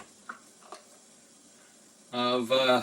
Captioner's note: mixer whirring